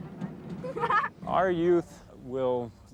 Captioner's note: girls laughing